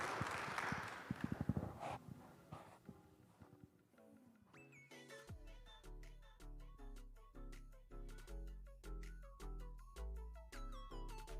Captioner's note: applause